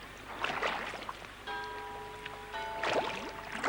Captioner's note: bell tolling